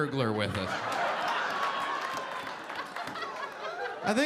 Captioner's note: audience laughing